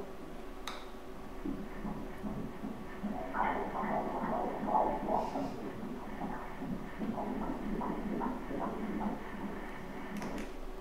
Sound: heart beats

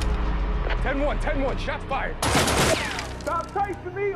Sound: gunshots

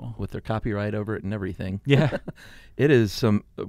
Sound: chuckles

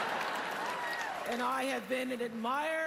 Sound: laughter, applause

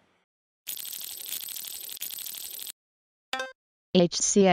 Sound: computer sound

